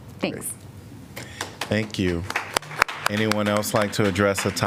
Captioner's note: applause